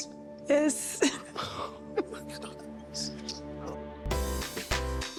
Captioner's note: whispering